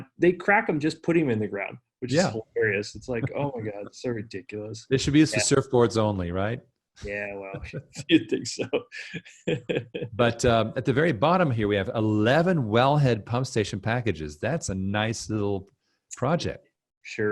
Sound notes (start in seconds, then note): 9.4 laughing